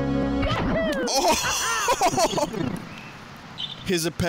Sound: laughs

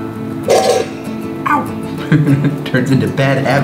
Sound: laughs

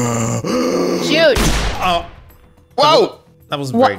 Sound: gunshot

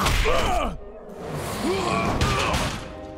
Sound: grunting; grunting

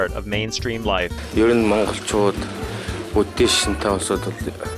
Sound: all in Mongolian

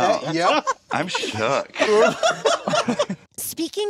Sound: laughs

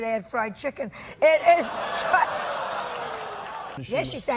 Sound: audience laughing

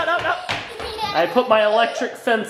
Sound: laughing

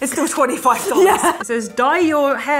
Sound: laughing

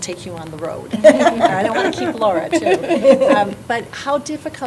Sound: laughter

